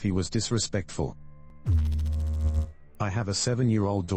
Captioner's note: electrical noise